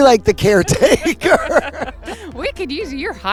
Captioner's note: laughter